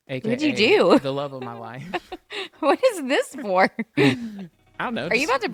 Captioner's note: laughs